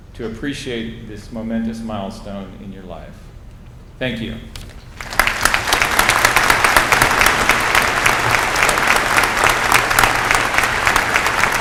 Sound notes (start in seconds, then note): 4.9 applause